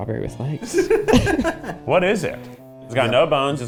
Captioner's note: laughing